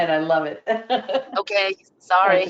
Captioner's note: laughter